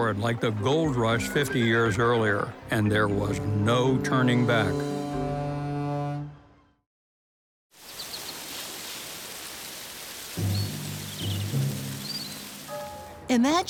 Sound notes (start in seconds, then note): 5.5 water Rushing